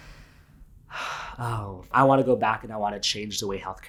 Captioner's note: sighs